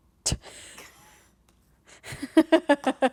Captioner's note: scoffing; laughing